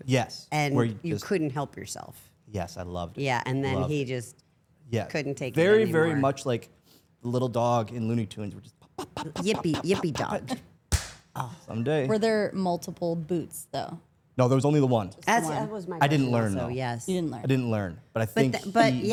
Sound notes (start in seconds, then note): 10.9 hands slap